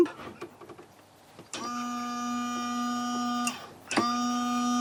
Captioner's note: miserable empty pump noise